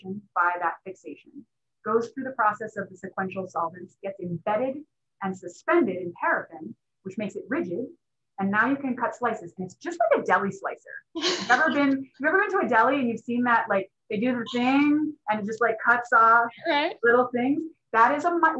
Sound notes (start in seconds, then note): 11.2 laughter